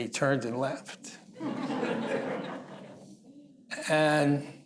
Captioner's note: laughter